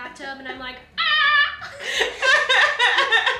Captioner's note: laughs; shouts amazedly